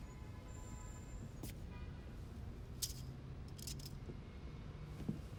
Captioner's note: car horns honk distantly